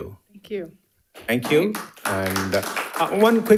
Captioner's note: audience applauding